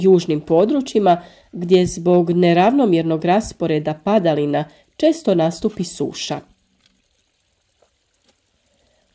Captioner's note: rain